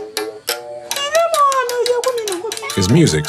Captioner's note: foreign language